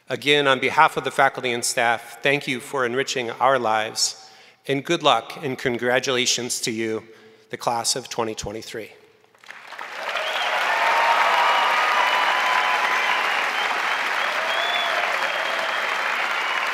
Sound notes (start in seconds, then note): 9.4 crowd applauding; 9.4 crowd cheering